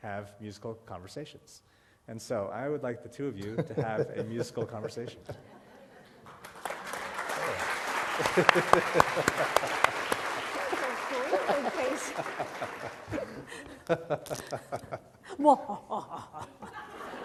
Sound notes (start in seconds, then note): 9.5 applause; 13.0 laughter